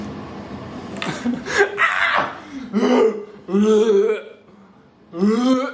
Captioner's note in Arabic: يضحك